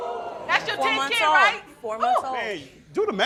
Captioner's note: crowd oohing